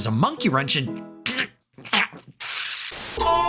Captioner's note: furious mouth noises